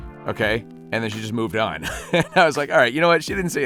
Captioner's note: laughs